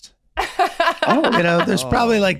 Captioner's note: laughing